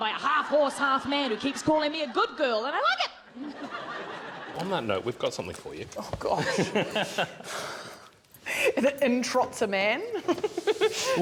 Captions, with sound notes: On that note we've got something for you. Oh gosh! [laughter] Is it 'in trots a man'?